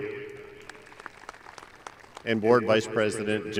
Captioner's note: audience applauding